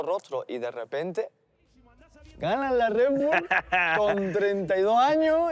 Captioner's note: laughs